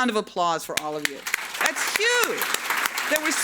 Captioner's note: audience clapping